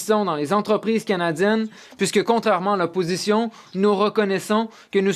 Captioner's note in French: voix de l'interprète